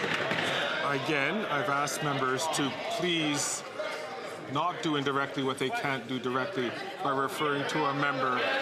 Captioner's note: some Applause